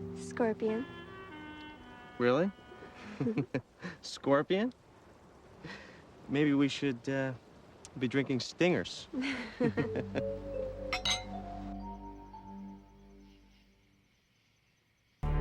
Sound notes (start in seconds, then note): 0.2 chuckling; 6.7 laughing; 9.7 mysterious music; 9.9 crickets chirping; 12.5 swanky music